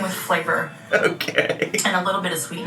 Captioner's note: laughs